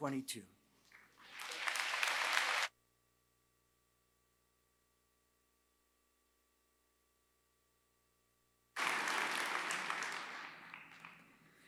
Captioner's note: applause